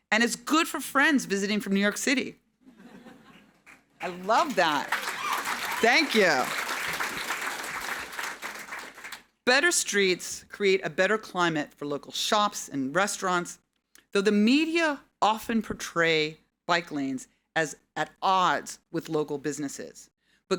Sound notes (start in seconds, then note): 2.7 audience laughing; 6.7 audience applauding